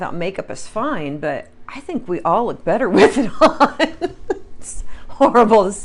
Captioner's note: laughs